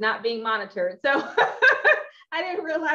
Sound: laughs

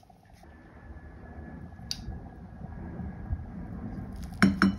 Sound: ✈️The sound of the plane...!

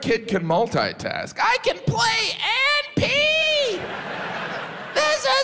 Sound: audience laughs

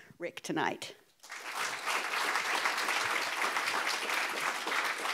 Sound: audience applauds

